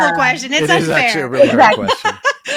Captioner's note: laughs